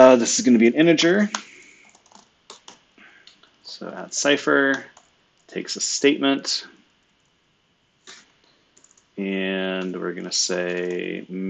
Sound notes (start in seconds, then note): 1.8 computer keyboard clicking; 10.7 computer keyboard clicking